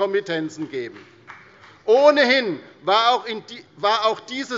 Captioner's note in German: Beifall bei der CDU